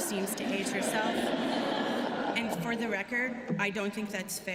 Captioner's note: laughter